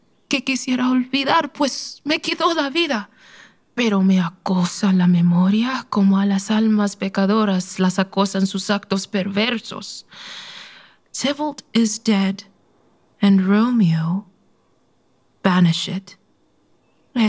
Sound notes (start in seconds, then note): none